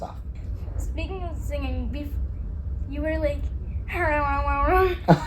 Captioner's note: funny sounds; laughing